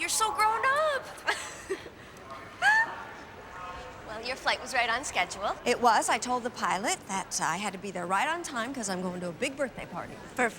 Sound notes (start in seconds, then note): 2.5 laughs